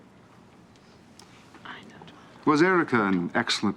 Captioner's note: whispering